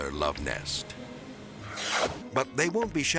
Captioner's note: transition whooshes